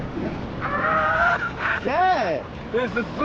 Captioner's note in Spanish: gritos